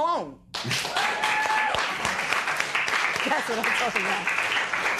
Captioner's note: cheering and applause